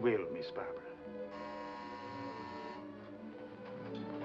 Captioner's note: door bell buzzes; ominous sentimental music